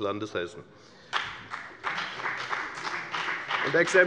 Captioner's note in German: Beifall bei der FDP